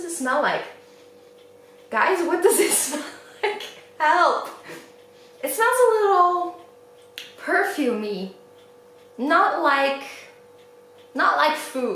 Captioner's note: laughs